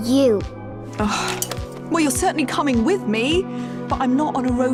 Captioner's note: sighs